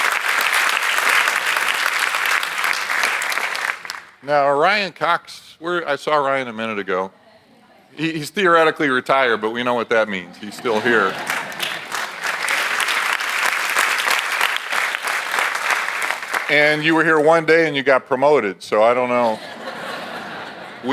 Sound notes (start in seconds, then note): 10.3 audience laughs; 12.9 audience applauds; 19.2 audience laughs